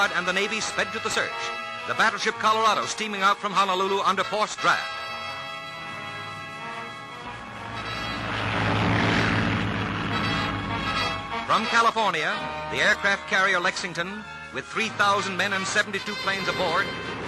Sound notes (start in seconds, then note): 6.3 intense music; 8.2 plane propeller whirring